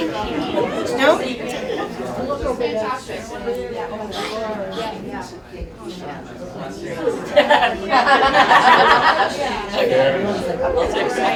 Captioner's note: laughter